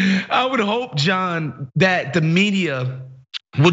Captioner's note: laugh